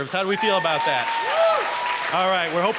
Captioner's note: applause